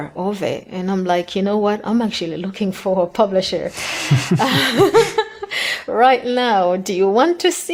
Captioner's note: they laugh